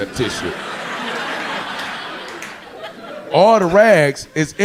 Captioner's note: audience laughing